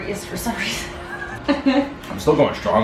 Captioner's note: laughing